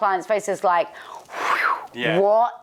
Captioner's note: whooshing